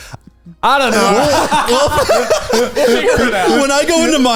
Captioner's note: all laughing